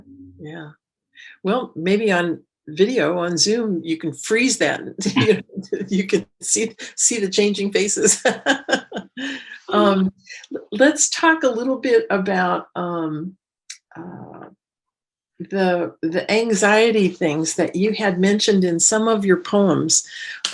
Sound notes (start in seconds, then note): 8.2 laughs